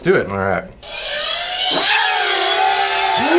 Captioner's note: drone noises